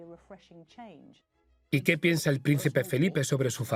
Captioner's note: voiceover